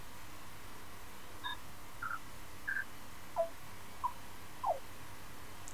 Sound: beeping

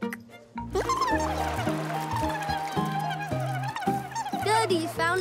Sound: murmuring

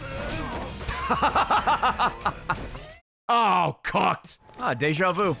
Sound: laughs

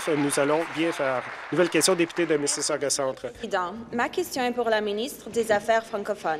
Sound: some Applause

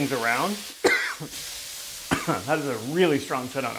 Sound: coughs

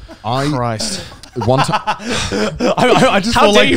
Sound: laughing

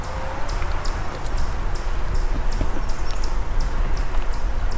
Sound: birds chirping

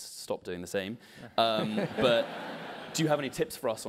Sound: laugh

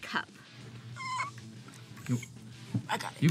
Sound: squeaks

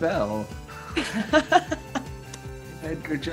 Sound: Daisy laughs

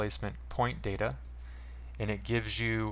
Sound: mouse click

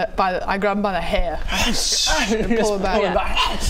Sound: sssh

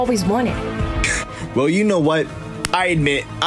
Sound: laughs

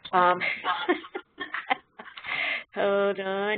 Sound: laughing

